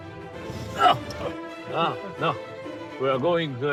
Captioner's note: laughs and grunts